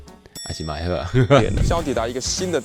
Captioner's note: Taiwanese